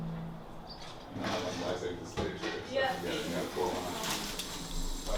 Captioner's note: indistinct chatter